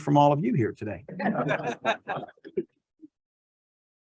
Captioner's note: laughs